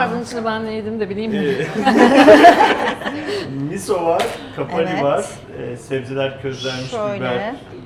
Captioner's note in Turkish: kahkaha